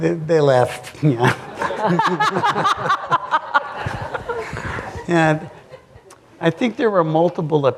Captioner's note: laughter